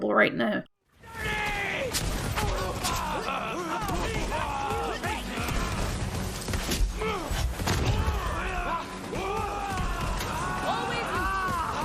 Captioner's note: combat and Chaos Noises